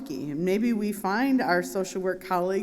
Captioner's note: none